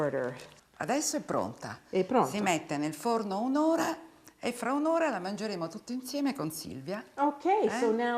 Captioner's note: speaking Italian